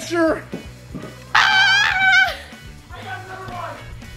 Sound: exclaiming

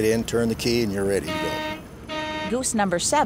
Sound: horn blares

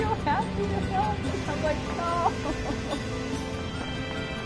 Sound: laughs

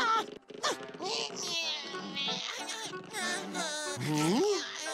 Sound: grunting, banging; grunting

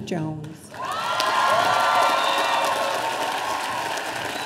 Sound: audience cheering

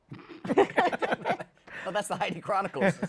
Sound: laughter

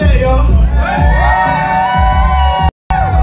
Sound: crowd cheers in approval

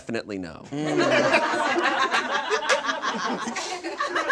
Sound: audience laughs

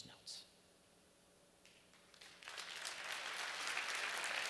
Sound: applause

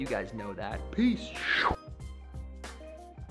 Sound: imitates whoosh

